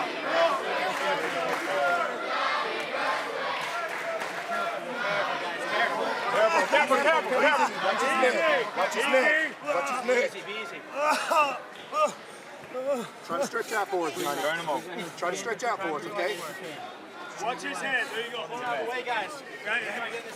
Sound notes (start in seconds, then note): 2.3 crowd cheering